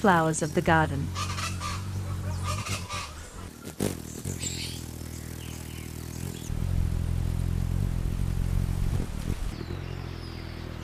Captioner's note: birds chirping